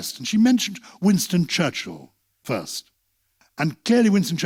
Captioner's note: none